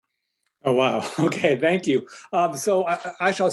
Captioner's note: chuckles